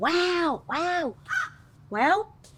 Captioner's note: bird caws